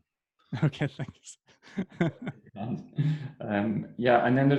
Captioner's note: laughs softly